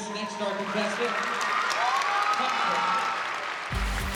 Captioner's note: cheering; upbeat dance music playing